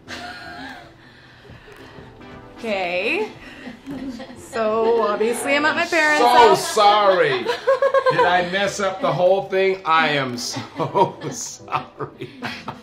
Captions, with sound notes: [laughs] Kay. [multiple people laughing] So obviously I'm at my parents' house. - So sorry, did I mess up the whole thing? I am so sorry. [laughs]